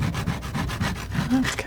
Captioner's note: scratching